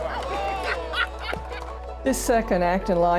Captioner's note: player laugh